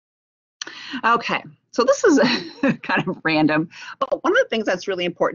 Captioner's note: laughs